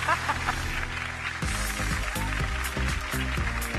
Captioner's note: laughing; clapping